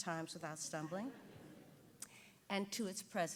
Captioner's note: audience giggling